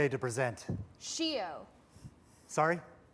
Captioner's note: non-english